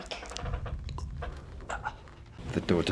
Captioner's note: creaking noise